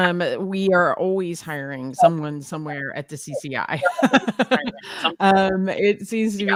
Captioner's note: laughs